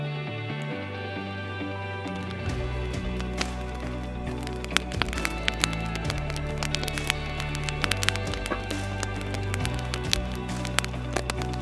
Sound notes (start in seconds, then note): 2.4 fire crackling